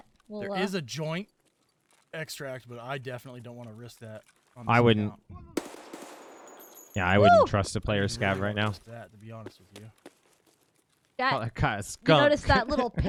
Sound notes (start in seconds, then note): 5.6 gunshot